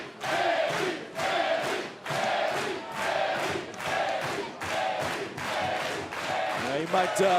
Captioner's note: fans chanting